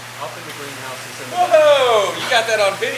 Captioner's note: shouts